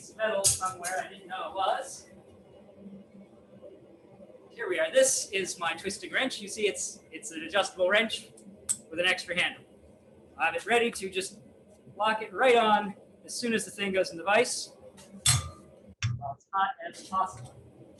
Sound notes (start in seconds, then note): 15.3 wrench crashes to the floor